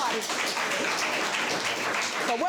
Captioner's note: applause